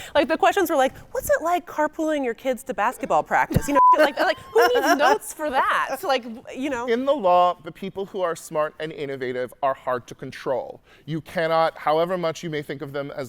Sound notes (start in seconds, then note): 3.6 beep